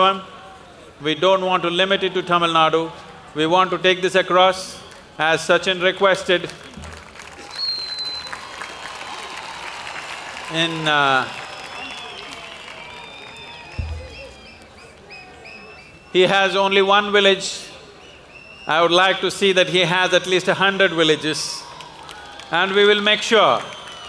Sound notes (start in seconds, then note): 6.3 applause